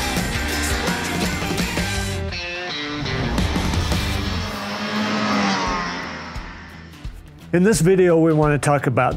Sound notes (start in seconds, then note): 3.9 snowmobiles revving